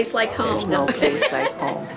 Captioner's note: laugh